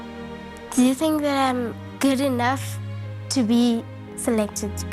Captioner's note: none